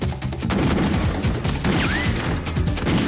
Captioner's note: gunfire